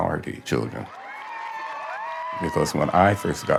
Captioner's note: audience applauding; audience cheering